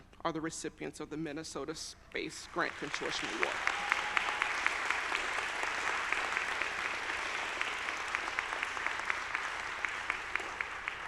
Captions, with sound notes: are the recipients of the Minnesota Space Grant Consortium Award. (audience applauding)